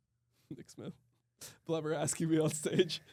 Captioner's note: laughs